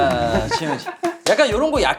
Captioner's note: laughing